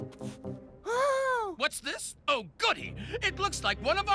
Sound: gasping

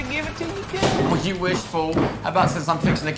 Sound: door slamming; shoes clomping

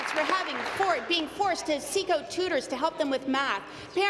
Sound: applause

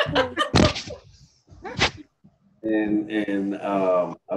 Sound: laughs

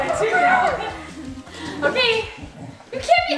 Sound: murmurs

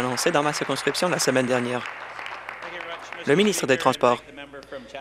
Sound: applause

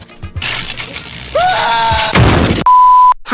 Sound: scream; thud

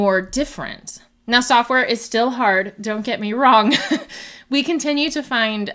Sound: laughs

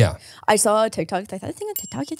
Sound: bell rings

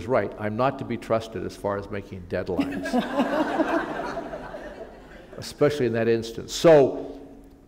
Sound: laughter

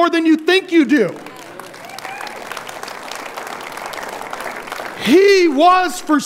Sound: audience applauding

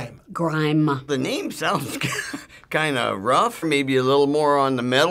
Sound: chuckles

